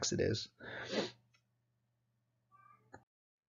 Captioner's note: sniffs